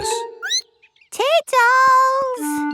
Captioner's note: squeaks